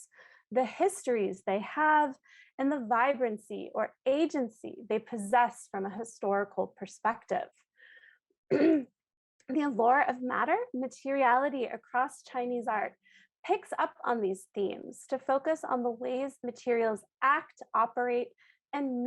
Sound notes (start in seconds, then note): 8.5 clearing throat